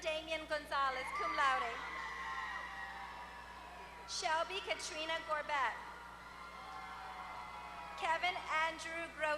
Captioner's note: applause